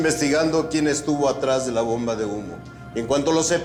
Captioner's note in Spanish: En voz baja